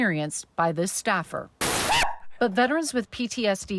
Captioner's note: loud air blowing; staff yelps